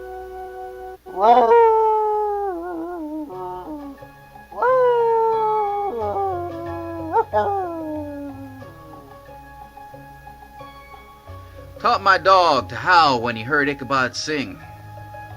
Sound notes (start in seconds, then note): 0.9 dog howling; 8.7 music picks up tempo